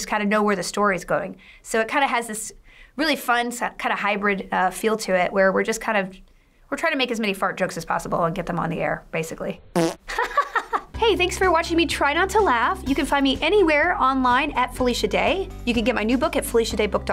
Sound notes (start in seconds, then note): 7.9 buzzer; 7.9 chuckles